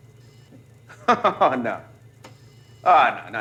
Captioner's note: laughs